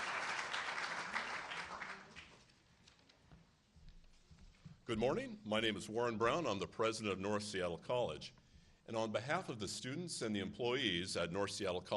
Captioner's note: applause